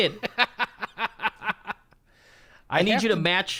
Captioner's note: laughs